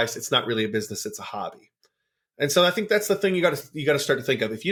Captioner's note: none